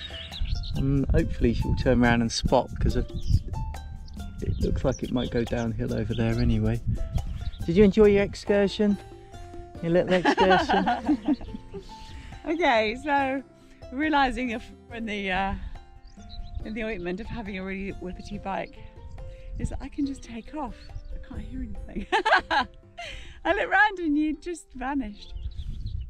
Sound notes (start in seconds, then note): 10.0 laughter; 22.0 laughs